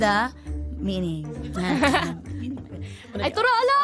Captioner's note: both chuckle